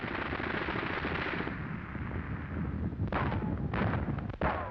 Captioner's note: guns firing